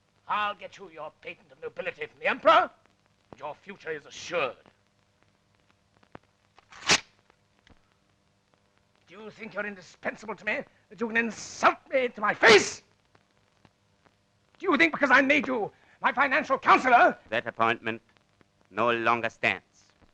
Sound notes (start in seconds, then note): 5.6 rustling sound